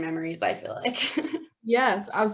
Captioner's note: laughter